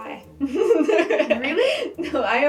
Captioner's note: laughter